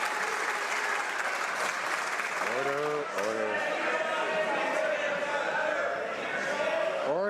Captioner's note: some Applause